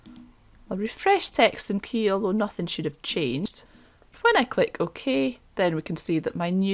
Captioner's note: click